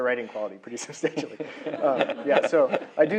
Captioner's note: laughter